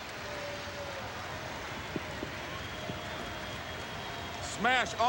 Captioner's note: applause